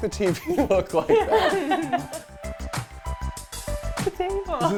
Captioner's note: laughing